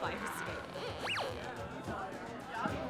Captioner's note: electronic sweep